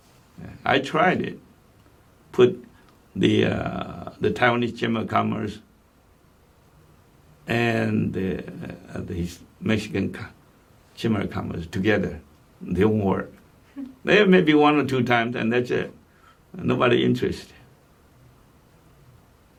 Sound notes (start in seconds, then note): 12.2 chuckles